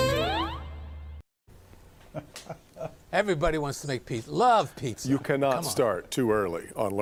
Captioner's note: laughter